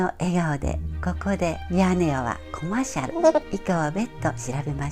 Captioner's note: laughs